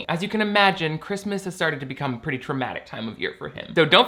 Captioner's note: none